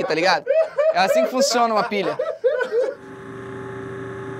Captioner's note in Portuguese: risadas